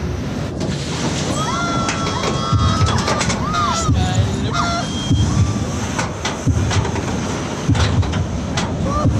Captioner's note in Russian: слышен скрип вагончика, люди кричат